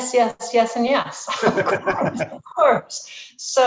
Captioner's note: both laughing